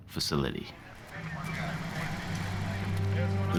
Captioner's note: radios squawking